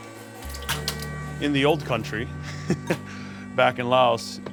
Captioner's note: chuckles